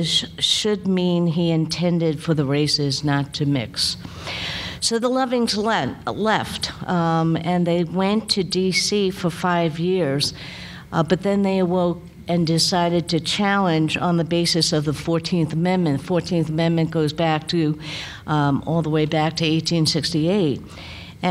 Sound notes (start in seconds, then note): none